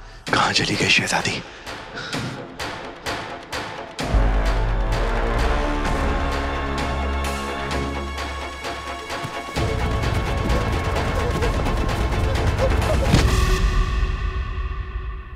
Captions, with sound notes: 'Where did the Princess go?' [suspenseful music playing] [thud]